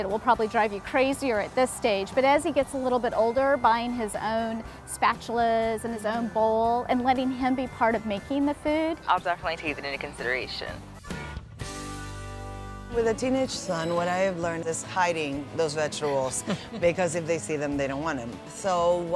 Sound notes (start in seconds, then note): 16.4 laughter